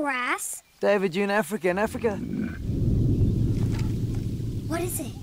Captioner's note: Growling